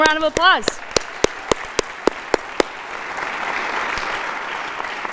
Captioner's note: audience applauding